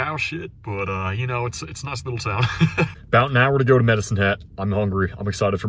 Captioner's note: laughs